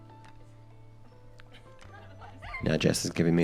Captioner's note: gentle music; bridesmaids laugh